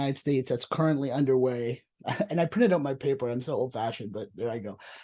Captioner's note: chuckles